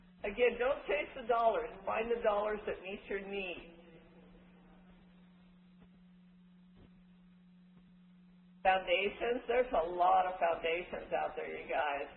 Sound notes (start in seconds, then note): 3.9 silence